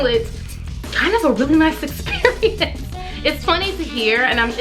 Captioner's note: laughs